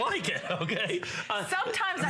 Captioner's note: laughter